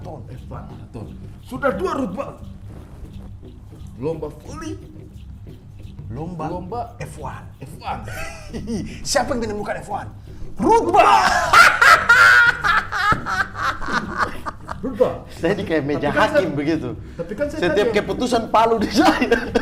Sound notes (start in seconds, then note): 13.1 laughing